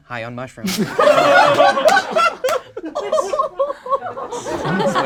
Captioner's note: group laughs